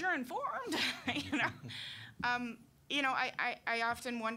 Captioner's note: laughing